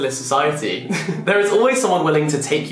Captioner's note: laughing